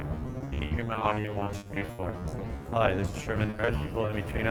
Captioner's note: crackles